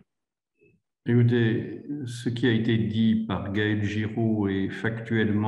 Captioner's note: speaks in foreign language